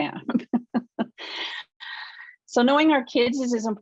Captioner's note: laughs